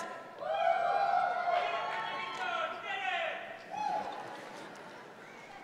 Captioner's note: members of the audience cheer